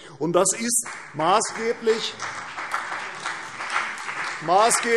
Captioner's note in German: Beifall CDU und BÜNDNIS 90/DIE GRÜNEN